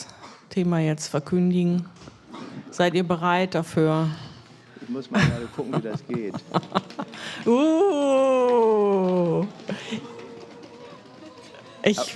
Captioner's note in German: gelächter